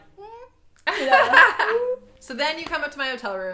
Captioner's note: laughs